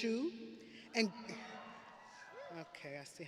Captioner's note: audience cheering